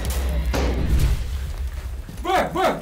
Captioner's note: crash; shouted commands